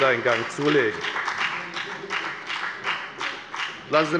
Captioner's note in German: Beifall bei der FDP